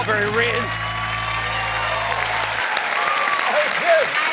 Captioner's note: cheering, applause